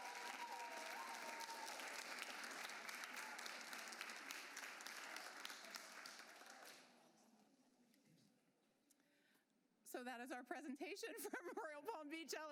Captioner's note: applause